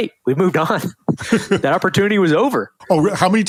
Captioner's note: interviewer laughs